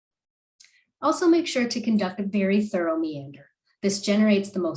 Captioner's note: click